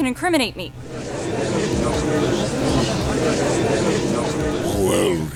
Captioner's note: gallery chattering